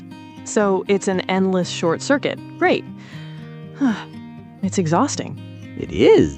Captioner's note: sighs